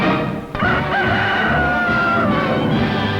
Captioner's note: rooster crowing